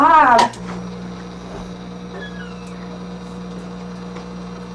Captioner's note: machine whirring